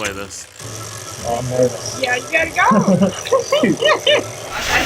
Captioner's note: group chattering